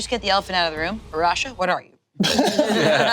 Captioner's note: group laughing